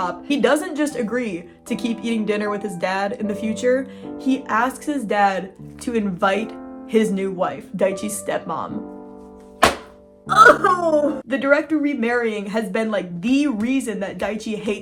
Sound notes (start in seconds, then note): 9.5 slams book; 10.3 weeping